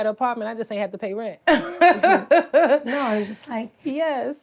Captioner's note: laughs